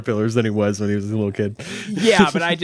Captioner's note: laughs